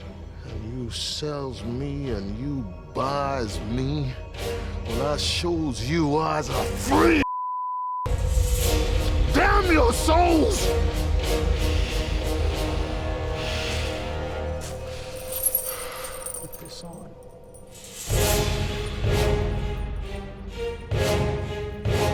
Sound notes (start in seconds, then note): 8.2 melodramatic orchestral music; 11.5 breathing heavily; 17.8 melodramatic orchestral music